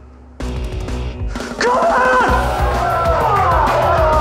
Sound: cheering

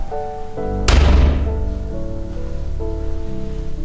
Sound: door closing sound

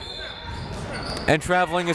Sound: whistle

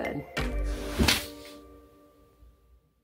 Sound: thump

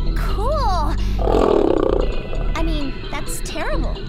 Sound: growl

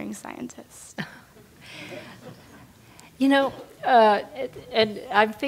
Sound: laugh

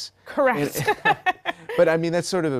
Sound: laugh

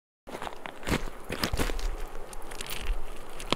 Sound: walking on rocks

